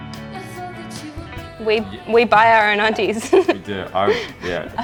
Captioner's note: laughs